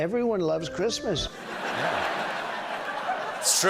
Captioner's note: laughter